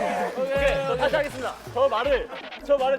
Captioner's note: sudden acceleration